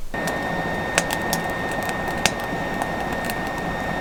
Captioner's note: fire crackling